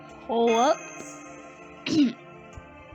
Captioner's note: clears throat